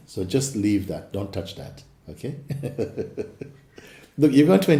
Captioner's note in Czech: smích